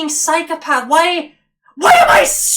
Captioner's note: scottish Accent